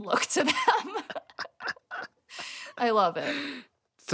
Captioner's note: laughter